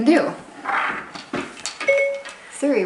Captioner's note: ding